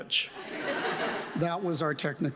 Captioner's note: audience laughs